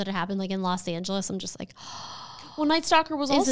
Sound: gasps

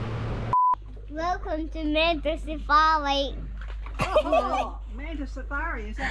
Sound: giggles

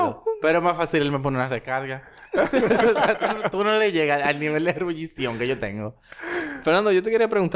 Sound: laughs

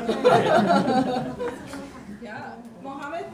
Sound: students laughing

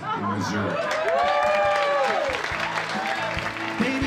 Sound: cheering

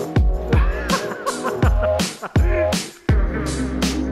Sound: laughing

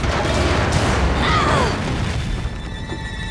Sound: groaning

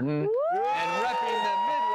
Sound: audience cheers and applause

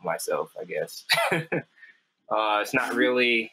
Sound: laughs

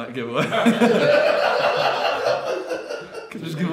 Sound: audience laughing

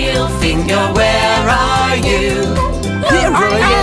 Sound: seal barking

